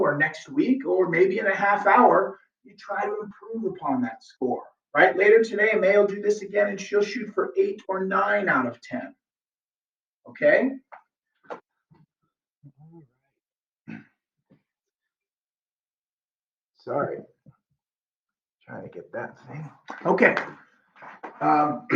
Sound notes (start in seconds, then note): 13.8 clears throat